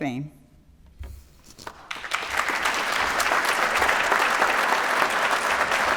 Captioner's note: applause